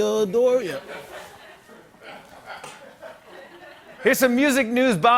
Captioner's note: laughter